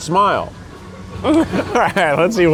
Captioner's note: laughs